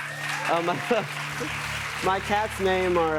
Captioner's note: applause